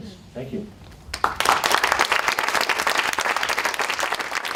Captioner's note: applause